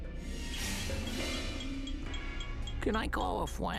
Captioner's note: timer ticking